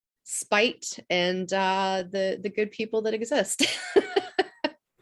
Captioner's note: laughs